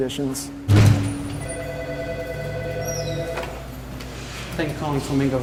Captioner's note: phone ringing